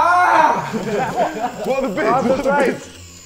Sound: Sidemen laughing

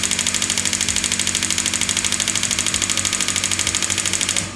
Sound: sounds of pulses

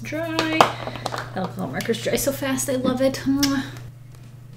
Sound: kisses

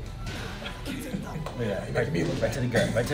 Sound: laugh

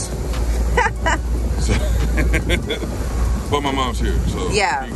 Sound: laughing

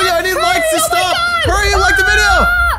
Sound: screaming

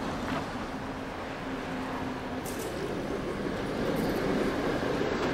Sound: city traffic noise

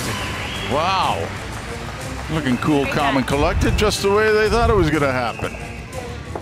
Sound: cheering and Applause

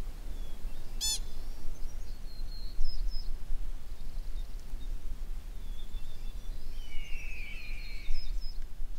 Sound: sound of a pika

